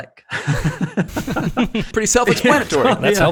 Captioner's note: men laughing